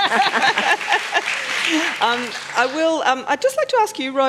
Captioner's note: applause